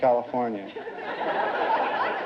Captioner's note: audience laughter